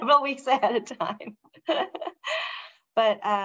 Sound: speaker laughing

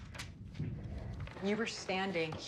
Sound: slaps paper down

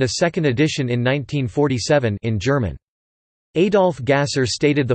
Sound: in German

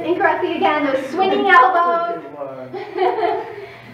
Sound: laughs

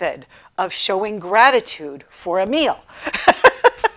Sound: laughing

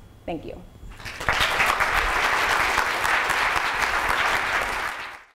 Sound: audience applauding

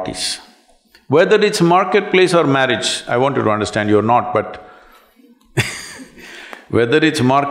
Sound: laughs

